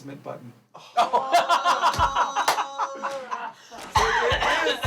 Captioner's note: all laughing